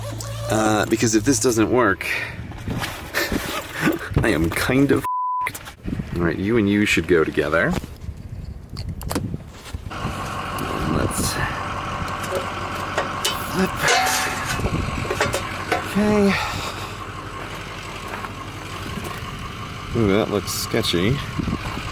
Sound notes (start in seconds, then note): 8.8 click; 10.9 diesel truck running